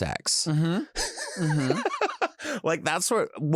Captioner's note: laughs